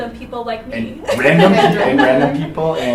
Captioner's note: presenters laughing